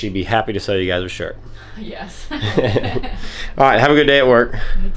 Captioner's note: laughs